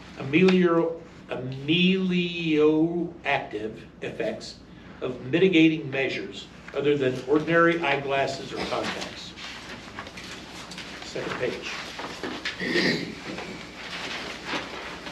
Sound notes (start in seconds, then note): 8.3 papers flipping; 12.5 clears throat